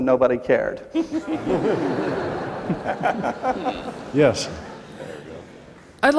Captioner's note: laughter